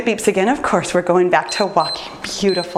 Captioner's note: timer beeps